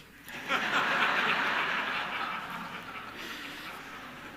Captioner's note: audience laughing